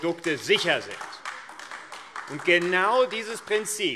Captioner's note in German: Beifall AfD